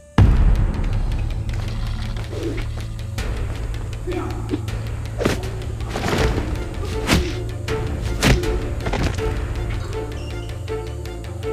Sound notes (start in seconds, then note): 0.1 dramatic music; 2.2 air whipping; 5.3 thudding